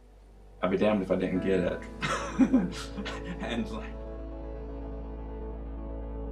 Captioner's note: laughs